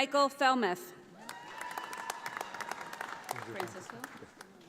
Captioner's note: audience applauding